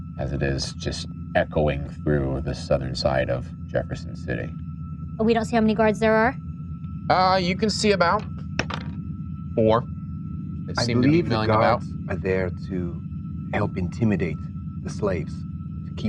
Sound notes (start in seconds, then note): 9.7 dice rolling